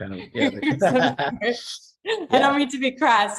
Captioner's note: laughs